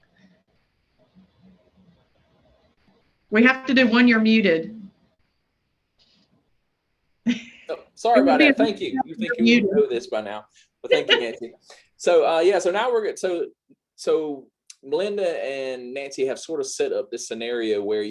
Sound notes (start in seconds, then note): 10.9 chuckles